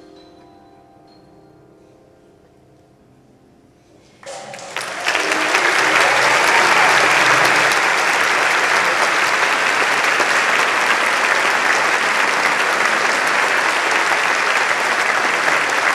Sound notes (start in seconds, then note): 4.2 applause